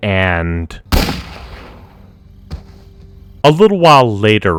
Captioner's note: gunshot